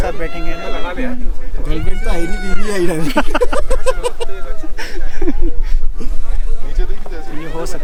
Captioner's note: laughs